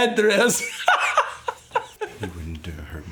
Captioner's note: Siegmund laughing